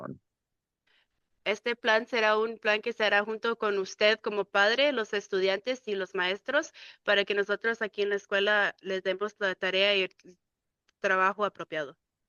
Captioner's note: speaking in Spanish